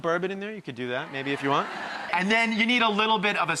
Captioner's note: laughter